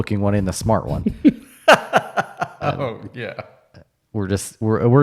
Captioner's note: laughing